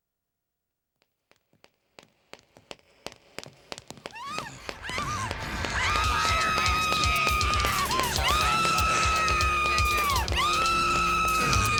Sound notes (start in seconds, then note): 1.0 footsteps approaching; 4.0 screaming